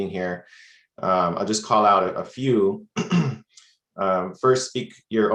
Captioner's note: clears throat